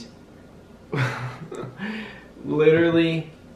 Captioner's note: laughs